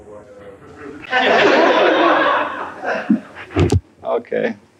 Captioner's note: laughter